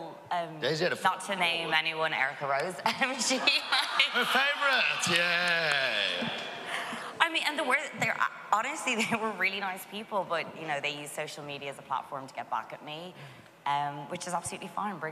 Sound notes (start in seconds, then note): 3.0 laughs; 3.1 audience laughs